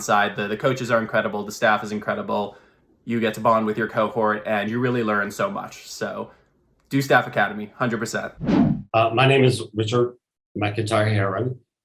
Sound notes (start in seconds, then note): 8.3 transition swooshing